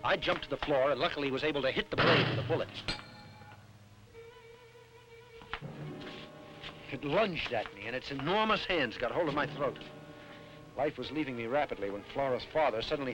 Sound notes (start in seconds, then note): 2.0 knife clangs; 4.5 tense music